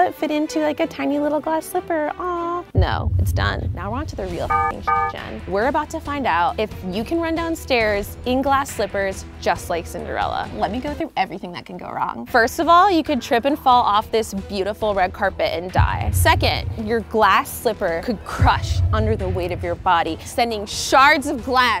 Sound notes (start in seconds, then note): 4.4 beeps